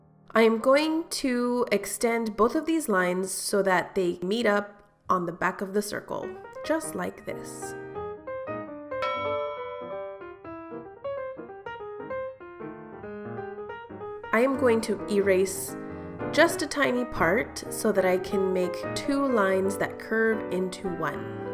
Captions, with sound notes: I'm going to extend both of these lines so that they meet up on the back of the circle just like this. [Ding] I am going to erase just a tiny part, so that I can make two lines that curve into one.